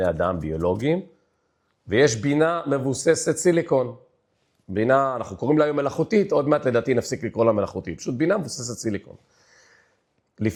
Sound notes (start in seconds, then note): none